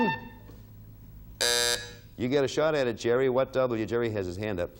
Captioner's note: timer buzzing; buzzer beeping